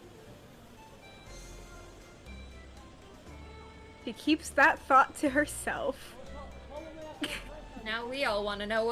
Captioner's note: laughs